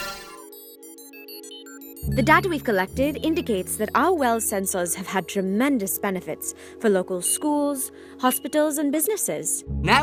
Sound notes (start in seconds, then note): 0.0 computer calculating sounds